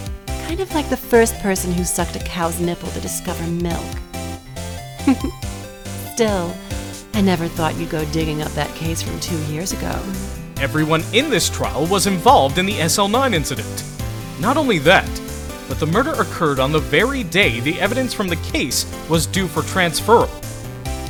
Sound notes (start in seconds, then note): 5.0 chuckles